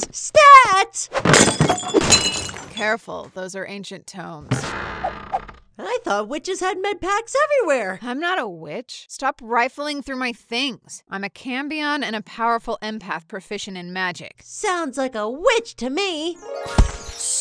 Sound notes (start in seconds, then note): 1.2 glass breaking; 4.5 wooden doors opening